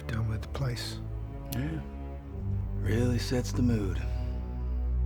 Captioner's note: says sarcastically